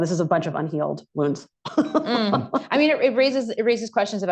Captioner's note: laughter